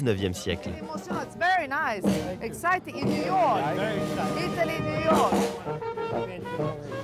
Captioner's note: speaking in English